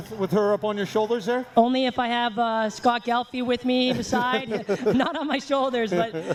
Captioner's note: laughter